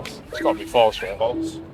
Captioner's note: scoreboard beeps